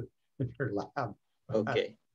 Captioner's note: laughs